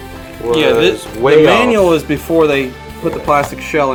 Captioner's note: voiceover